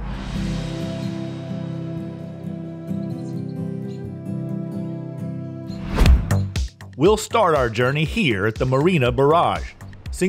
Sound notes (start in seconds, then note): 0.0 tranquil music; 0.3 birds chirping; 5.8 air whooshing; 5.8 upbeat music